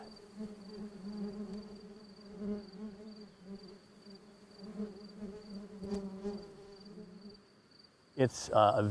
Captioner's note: bees buzzing